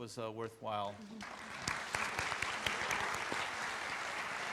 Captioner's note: audience applauds